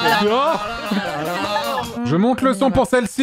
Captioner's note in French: a un fou rire